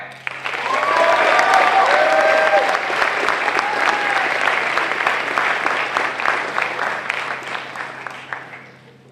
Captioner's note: applause